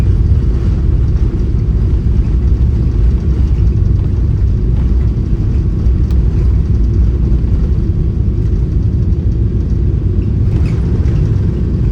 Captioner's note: engine noise